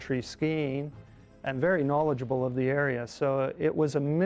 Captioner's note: voiceover